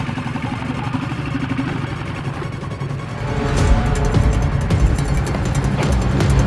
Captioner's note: intense music; engine humming